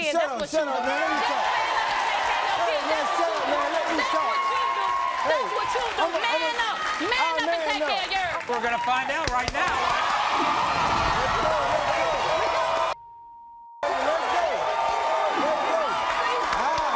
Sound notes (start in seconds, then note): 3.8 audience cheers; 10.0 audience cheers; 13.0 beep; 13.8 audience cheers